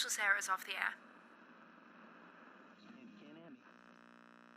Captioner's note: static buzzing